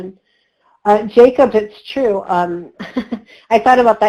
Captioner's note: laughs